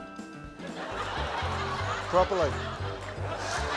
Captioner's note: laughter